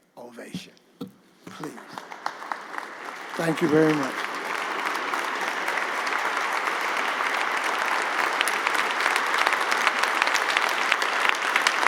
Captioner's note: applause; applause